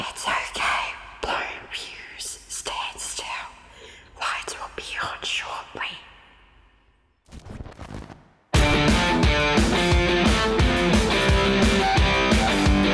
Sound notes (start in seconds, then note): 0.0 voice 2 Whispering; 0.4 voice 1 Whispering; 7.1 electricity crackles; 8.5 rock music plays